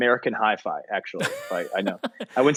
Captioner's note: laughing